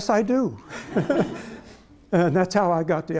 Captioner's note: laughter